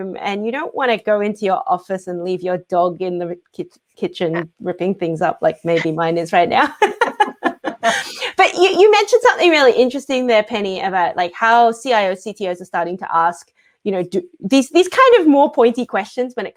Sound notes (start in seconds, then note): 6.7 laughs